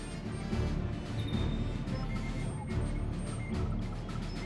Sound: beeping

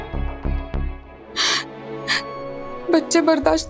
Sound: whimpering

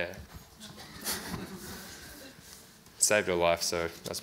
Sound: audience laughs

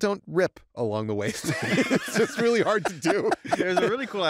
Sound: laughter

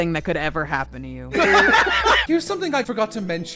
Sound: laughter

